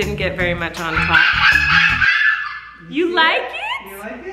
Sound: screams

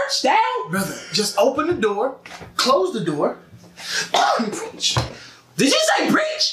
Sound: caugh

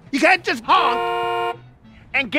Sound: honk

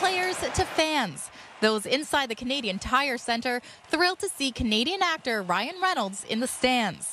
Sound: crowd Noise

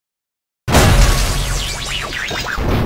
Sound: crashes

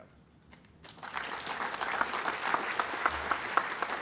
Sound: applause

